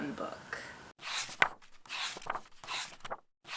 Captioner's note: pages turning